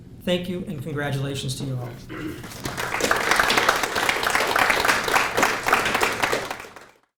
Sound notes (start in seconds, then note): 2.4 applause